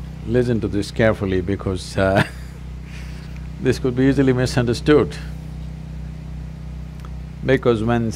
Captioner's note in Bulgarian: Смях